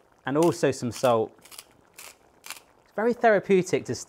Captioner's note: bubbling